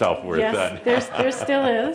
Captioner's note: Adamus chuckles